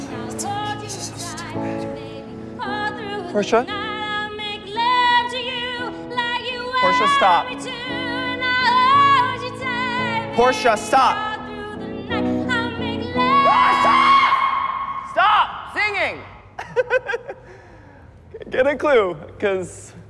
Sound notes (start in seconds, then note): 13.4 screams; 16.4 laughs nervously